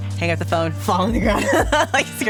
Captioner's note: laughing